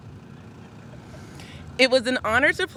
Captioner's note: audience laughs